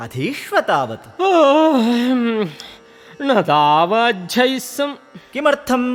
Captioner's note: yawns